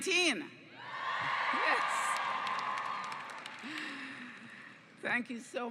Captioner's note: cheers